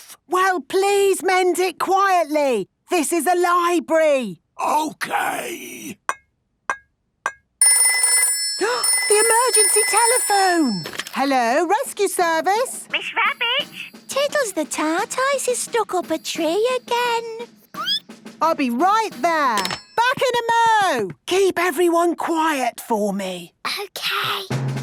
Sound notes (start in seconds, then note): 4.3 whispering; 7.7 phone ringing, gasp; 17.4 squeaking